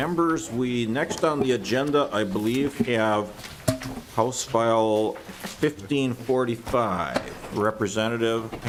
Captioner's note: gavel